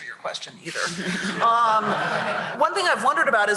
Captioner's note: laughter